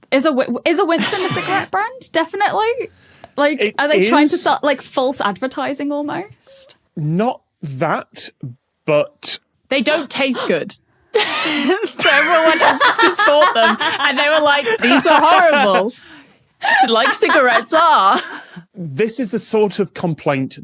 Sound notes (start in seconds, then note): 11.4 laughs uproariously; 16.6 laughs